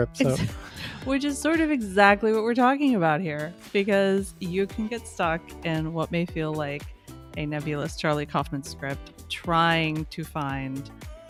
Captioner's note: chuckles